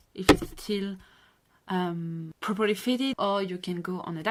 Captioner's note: hit the microphone